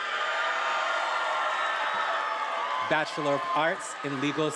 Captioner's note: attendees applauding and cheering